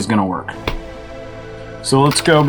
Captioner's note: laptop closes